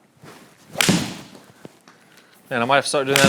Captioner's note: golf ball thwacks